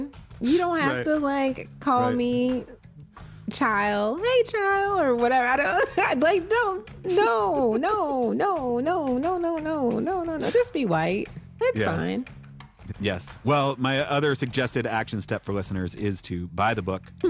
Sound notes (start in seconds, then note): 12.8 laughing